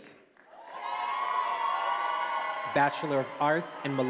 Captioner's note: attendees applauding and cheering